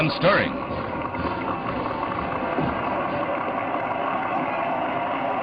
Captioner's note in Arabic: الجمهور يواصل التصفيق